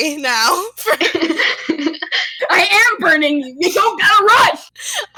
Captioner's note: giggling